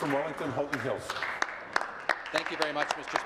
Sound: applause

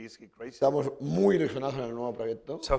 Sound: speaking spanish

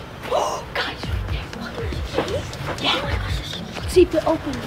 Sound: gasps

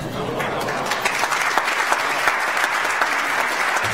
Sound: audience applauds

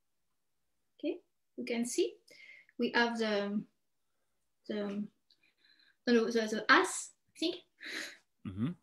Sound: chuckles

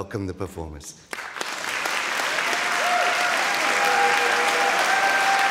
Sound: audience cheering

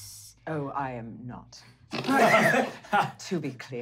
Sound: players laughing

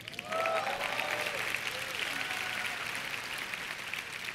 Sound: applause

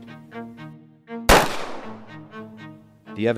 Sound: gunshot noise

